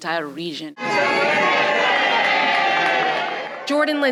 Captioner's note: cheering